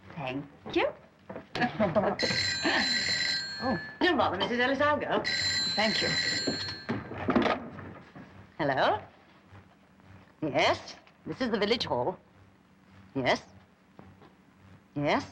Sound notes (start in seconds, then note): 1.8 phone ringing